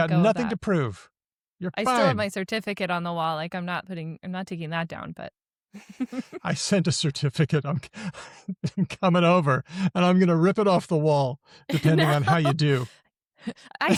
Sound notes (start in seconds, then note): 5.8 chuckles; 6.0 laughs; 11.7 laughs